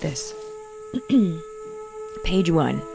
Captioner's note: clears throat